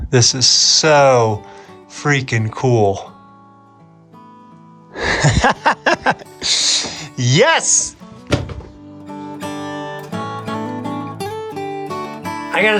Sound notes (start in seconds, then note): 4.9 laughs; 9.7 calm music